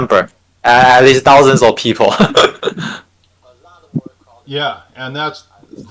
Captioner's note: laughs